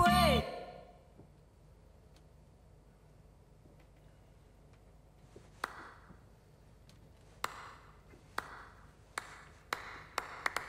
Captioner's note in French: Applaudissements timides; Long silence